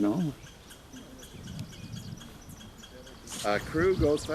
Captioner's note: birds chirping